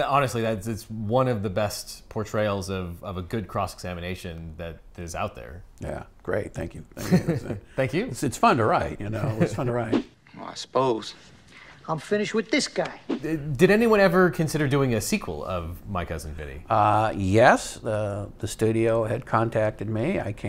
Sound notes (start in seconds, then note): 6.9 laughs; 9.7 graphics whooshing